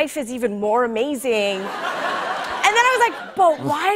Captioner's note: laughter